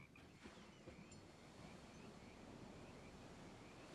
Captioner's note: chimes tinkling